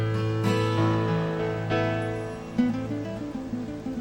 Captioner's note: water rustling